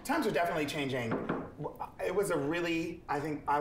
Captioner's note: Jiggly knocks